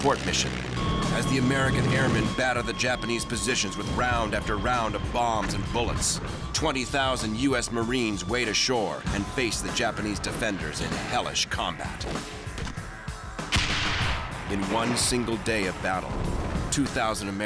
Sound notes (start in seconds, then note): 13.5 gunfire